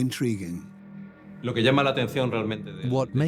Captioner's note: Spanish dubbed into English